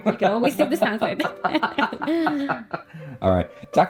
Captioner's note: both laughing